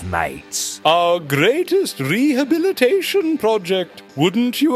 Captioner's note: pompous